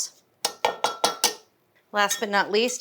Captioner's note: grater tapping